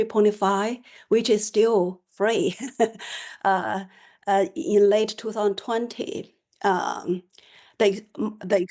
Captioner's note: laughter